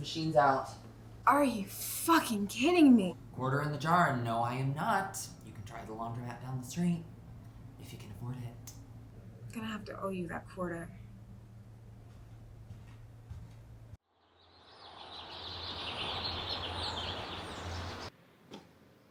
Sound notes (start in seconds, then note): 12.6 footsteps tapping; 14.3 birds chirping